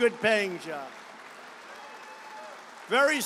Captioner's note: applause